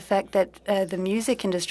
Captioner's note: speaking french